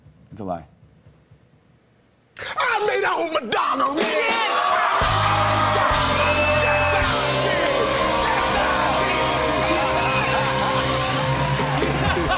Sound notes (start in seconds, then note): 4.4 audience "Oh"s